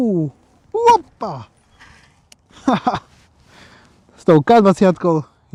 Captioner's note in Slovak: smiech